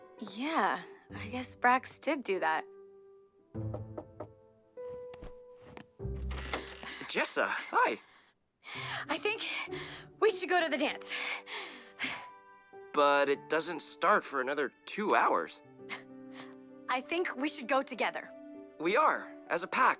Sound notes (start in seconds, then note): 3.6 knock on the door; 5.0 soft music